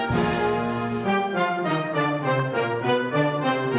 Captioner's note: none